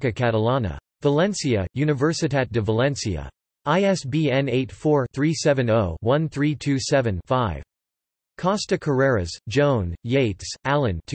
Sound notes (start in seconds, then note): 7.7 in Spanish